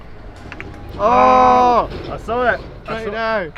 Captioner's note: men groaning